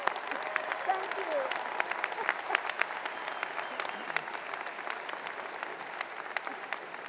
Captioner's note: applause